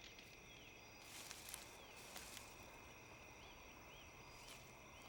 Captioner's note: grass rustling